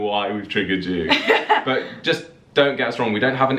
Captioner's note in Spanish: laughing